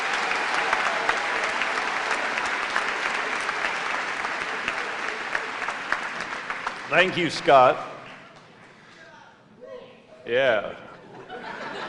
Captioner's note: applause